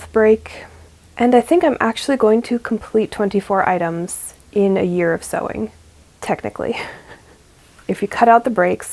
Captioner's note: laughs